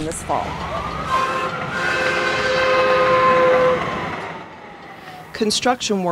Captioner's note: train Horn Blowing